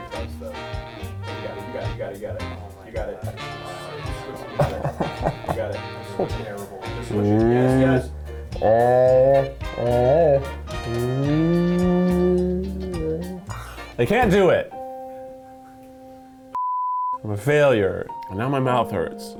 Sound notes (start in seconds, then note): 3.1 laughing; 8.5 humming